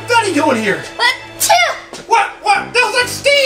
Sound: assistant sneezes

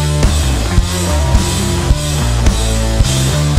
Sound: audience cheers

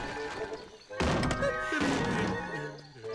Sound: humming

